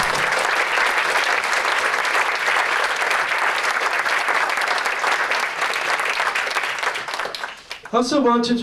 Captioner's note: applause